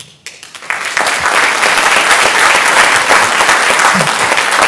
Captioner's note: audience applauding